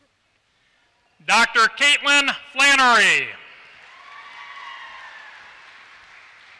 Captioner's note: applause